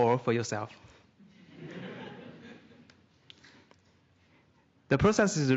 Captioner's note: laughter